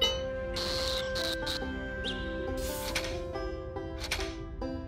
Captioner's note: static